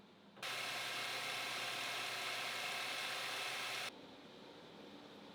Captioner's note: machine revving